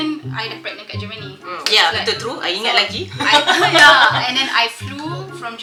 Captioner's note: laugh